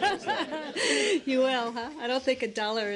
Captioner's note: laughter